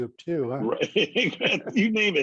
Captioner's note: laughter